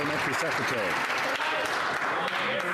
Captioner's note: some Applause